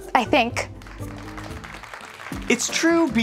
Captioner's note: applause